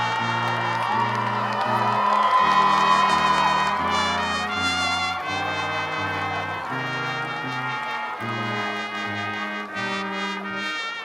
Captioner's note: applause